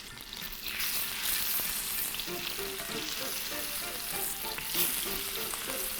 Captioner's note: chicken sizzling; light upbeat music